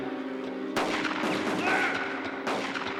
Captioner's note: gun firing